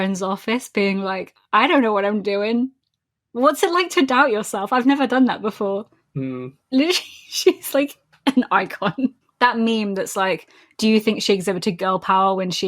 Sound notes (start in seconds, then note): 6.2 laughing